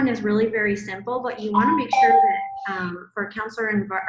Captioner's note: bell rings